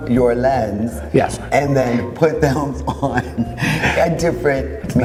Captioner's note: laughs